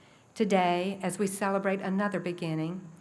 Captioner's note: none